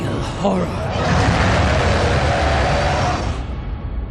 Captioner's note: loud roaring